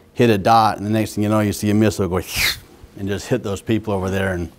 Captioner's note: whistle